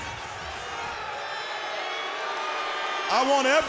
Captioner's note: crowd boos